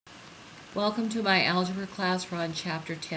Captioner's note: voiceover